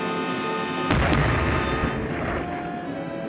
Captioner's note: loud explosion; fast-paced music